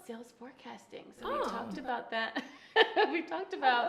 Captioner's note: laughs